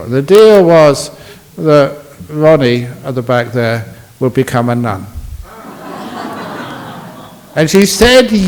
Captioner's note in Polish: Laughs